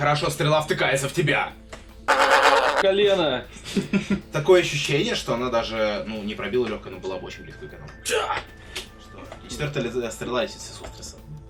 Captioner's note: sounds of suffering